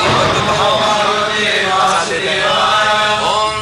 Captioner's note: devotees repeat